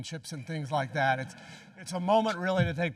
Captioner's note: audience chuckling